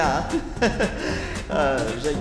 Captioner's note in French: rires nerveux